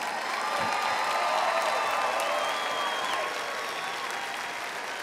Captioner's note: audience cheering